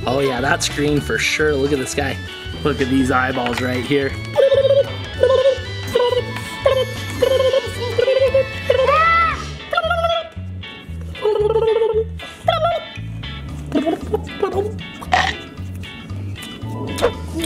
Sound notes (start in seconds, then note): 4.2 vocalizing; 4.5 quirky music; 8.6 screaming; 10.0 upbeat music; 11.2 vocalizing; 15.2 quirky music; 15.2 teeth chomping